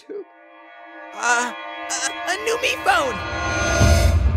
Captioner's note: stammering